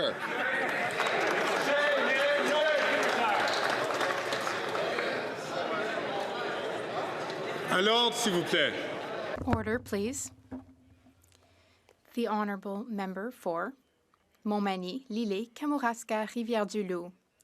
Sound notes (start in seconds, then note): 5.1 applause